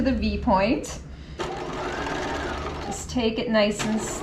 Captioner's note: sewing machine whirling